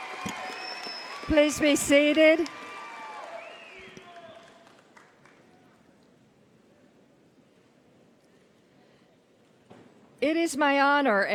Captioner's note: cheers and applause